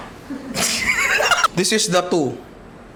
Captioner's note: laughs